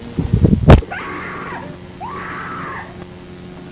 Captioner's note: screaming